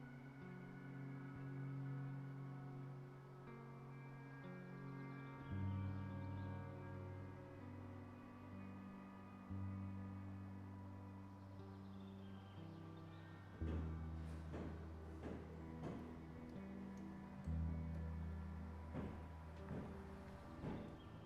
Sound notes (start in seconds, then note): 0.1 light music continues; 13.5 light music continues; 15.7 fist pounding